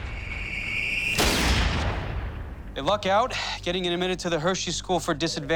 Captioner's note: gunshot